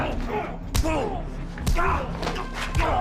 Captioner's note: thug groans; punch thumps; thug groans; punch thumps; thug groans